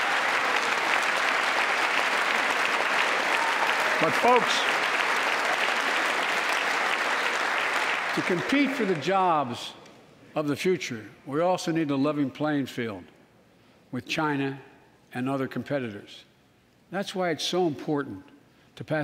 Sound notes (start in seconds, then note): 3.3 applause